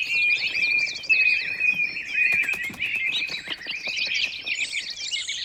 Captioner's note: frantic chirping